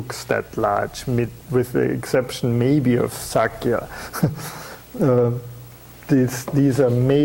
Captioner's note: chuckling